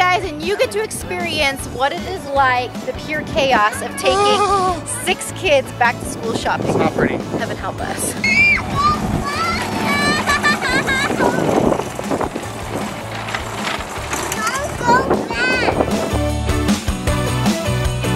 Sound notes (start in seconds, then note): 8.1 children screaming; 14.3 upbeat music